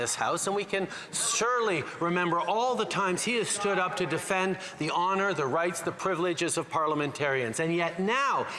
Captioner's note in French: voix de l'interprète